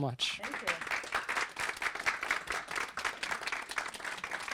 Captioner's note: applause